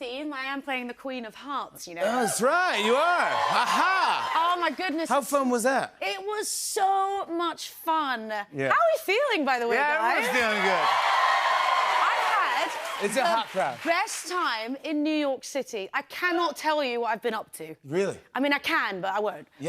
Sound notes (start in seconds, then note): 10.0 cheers and applause